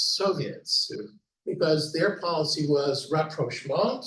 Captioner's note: speaking German